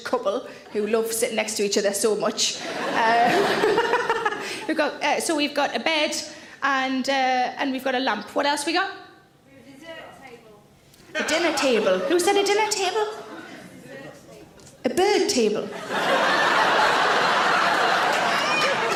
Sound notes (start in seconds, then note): 2.6 audience laughs; 2.8 Sarah laughs; 15.7 audience laughs